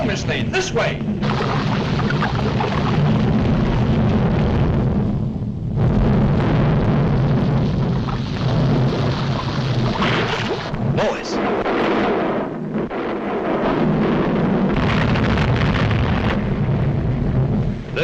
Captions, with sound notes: - No, Ms. Lane. This way! (lava burbling) - Lois. (volcano roars)